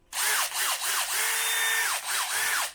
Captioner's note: sound of drill running